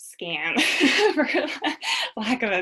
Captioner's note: laughing